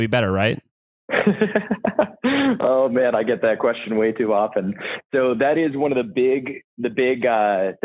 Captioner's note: laughs